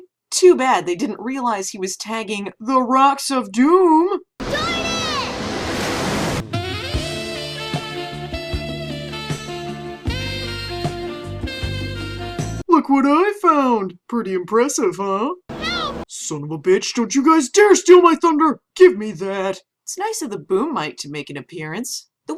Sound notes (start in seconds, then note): 4.4 splash of doom